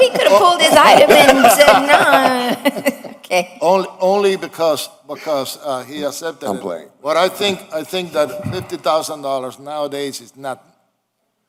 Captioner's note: laughter